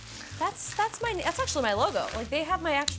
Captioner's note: packaging rustles